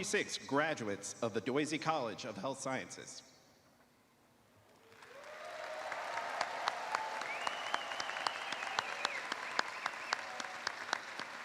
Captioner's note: cheers and applause